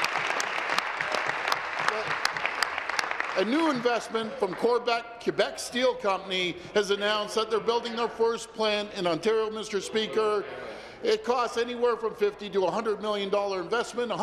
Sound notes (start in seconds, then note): 2.3 applause